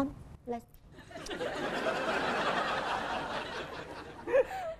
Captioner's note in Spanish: risas